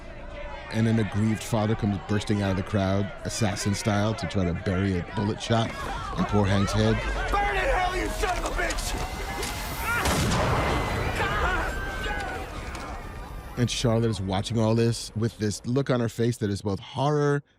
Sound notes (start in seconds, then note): 9.5 gunshot; 10.8 hank grogan screams